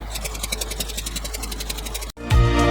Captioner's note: airy Sounds; intro Music